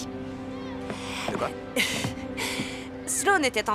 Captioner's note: laughing